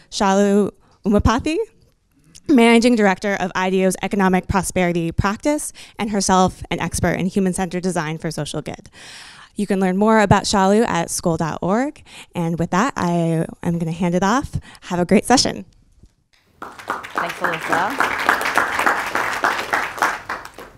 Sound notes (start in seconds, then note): 16.5 applause